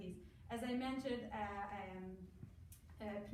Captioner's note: foreign language